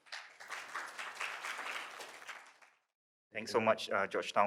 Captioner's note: audience applauding